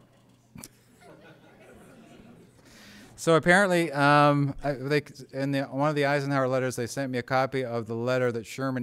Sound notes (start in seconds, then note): 0.7 laughter